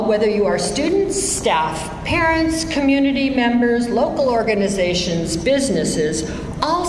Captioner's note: none